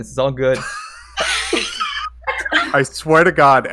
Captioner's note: laughs